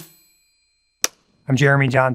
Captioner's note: clapperboard snaps